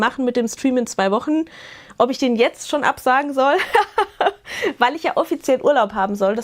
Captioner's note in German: Gelächter